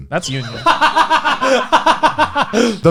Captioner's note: laughs loudly